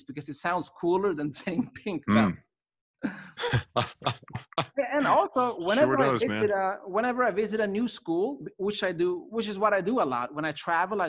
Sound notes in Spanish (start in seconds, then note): 3.4 Risas